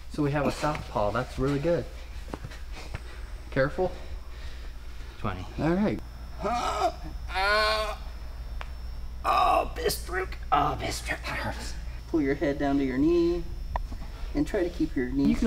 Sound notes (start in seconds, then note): 6.3 groaning